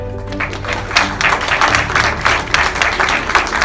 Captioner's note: clapping